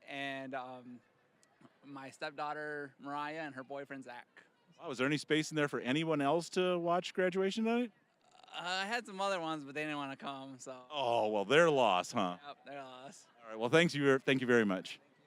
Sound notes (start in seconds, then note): none